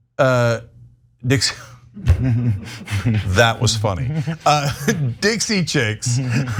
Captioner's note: laugh